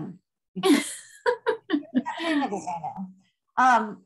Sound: laughter

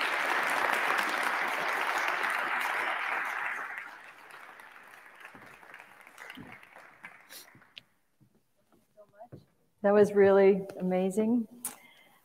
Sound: applause

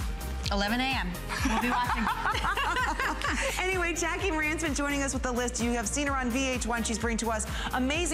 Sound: laughter

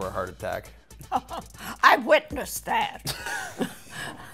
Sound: laughing

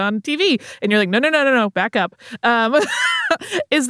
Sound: laughs

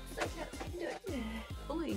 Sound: distressed noises

